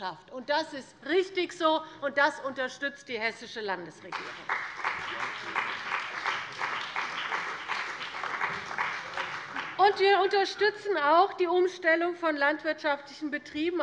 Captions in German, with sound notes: Das ist richtig so, und das unterstützt die Hessische Landesregierung. [Beifall bei der CDU und dem BÜNDNIS 90/DIE GRÜNEN] Wir unterstützen auch die Umstellung von landwirtschaftlichen Betrieben